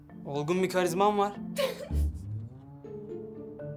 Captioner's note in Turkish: Gülüyor